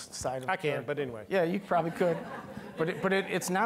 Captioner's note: all laughing